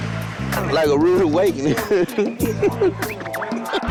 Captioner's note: giggles